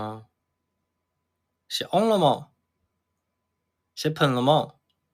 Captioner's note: Taining dialect